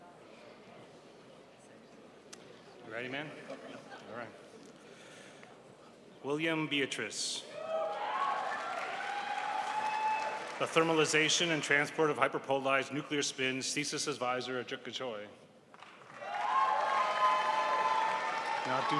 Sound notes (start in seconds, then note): 7.6 crowd applauds; 15.8 crowd applauds